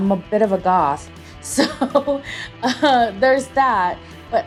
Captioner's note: laughs